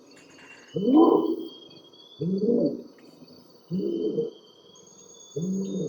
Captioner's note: orangutan continues howling